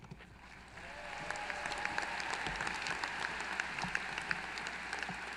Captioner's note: applause